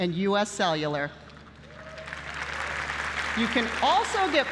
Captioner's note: applause